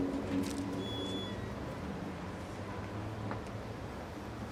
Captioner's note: gate squeaking